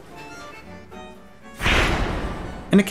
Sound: gunshot

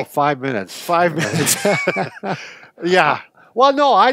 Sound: both laughing

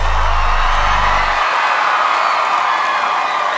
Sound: crowd cheers

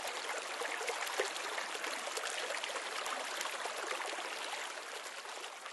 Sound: water splashing

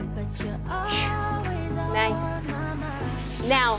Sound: puffs

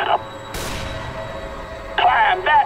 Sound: distance gunshot

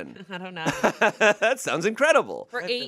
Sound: laughs

